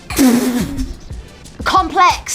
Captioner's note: women snicker